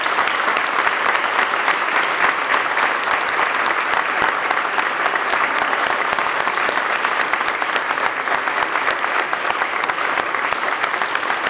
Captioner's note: applause